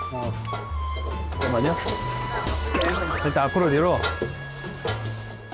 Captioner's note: Squeak, squeak